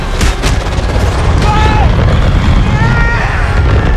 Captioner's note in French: Criant